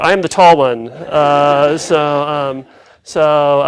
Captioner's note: laughs